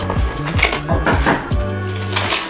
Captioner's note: knocking